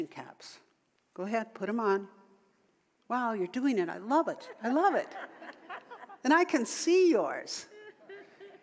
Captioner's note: audience laughter